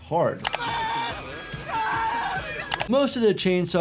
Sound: person screaming

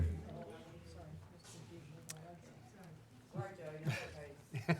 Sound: indistinct chatters

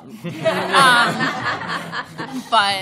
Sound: laughter

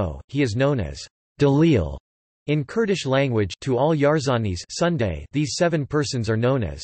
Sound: in Kurdish Language

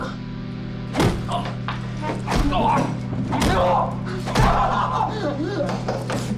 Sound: body thuds; Dennis grunting

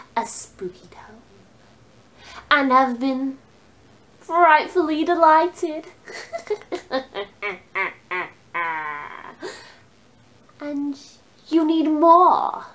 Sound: ridiculous cackle

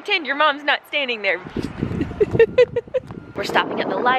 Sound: laughs

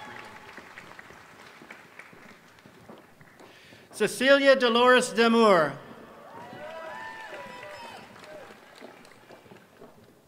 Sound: applause

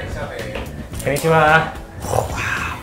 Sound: speaking in foreign language

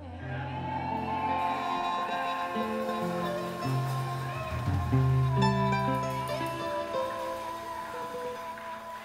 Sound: applause and cheers as song ends

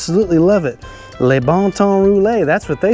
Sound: speaking in French language

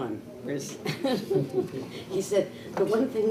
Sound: chuckles

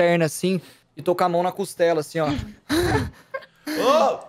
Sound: gasping for air; laughs

